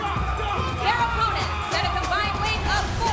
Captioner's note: cheers & applause